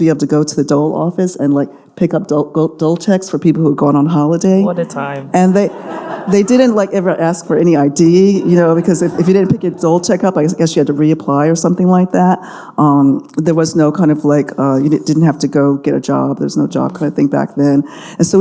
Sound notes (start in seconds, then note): 5.4 audience laughing